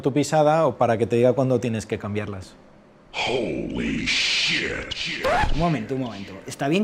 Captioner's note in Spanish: Voz en off